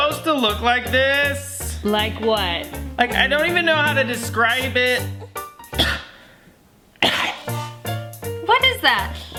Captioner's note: coughs